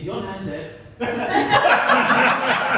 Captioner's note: laughter